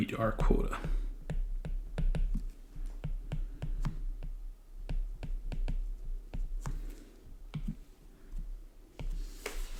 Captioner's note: writing